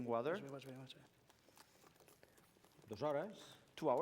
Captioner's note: non-english speech